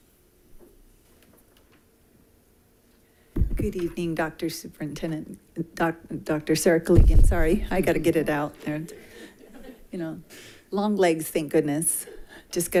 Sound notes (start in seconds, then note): 8.8 group laughing